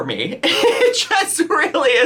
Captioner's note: laughs